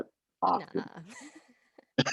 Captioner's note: both laughing